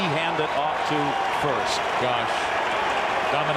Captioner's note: applause